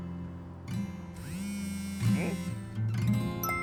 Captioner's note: brrr